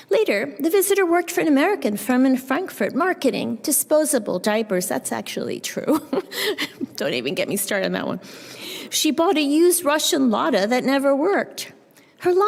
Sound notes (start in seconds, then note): 5.9 chuckles